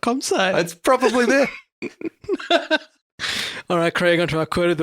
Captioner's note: laughs